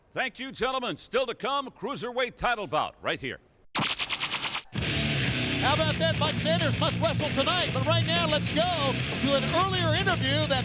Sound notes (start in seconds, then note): 3.7 logo buzzes; 3.8 upbeat heavy metal music